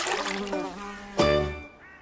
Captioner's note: splashes